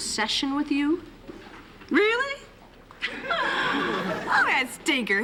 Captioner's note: laughs